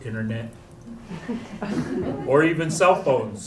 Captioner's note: chuckles